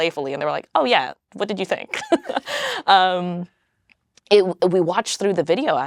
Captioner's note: laughs